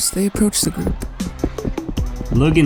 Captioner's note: footsteps